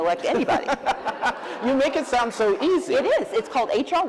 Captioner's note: laughs